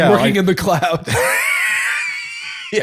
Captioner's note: laughter